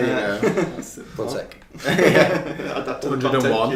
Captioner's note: laughing